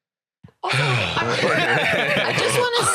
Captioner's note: sighs; both laughing